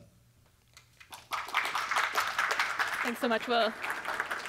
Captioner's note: audience applauds